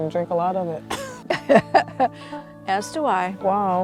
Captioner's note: laughing